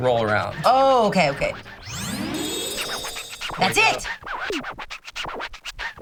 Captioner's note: record scratching